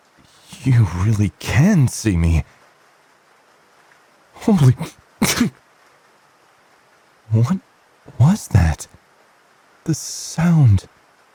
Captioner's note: sneeze